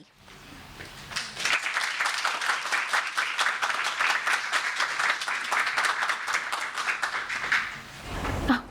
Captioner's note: applause